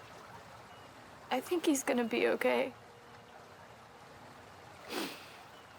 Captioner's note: sniffs